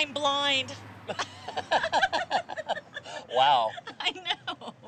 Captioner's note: laughter